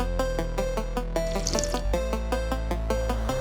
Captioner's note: slurping sound; glitch pop music